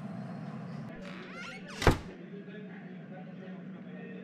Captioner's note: door open and close